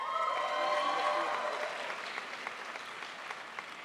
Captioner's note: crowd applauds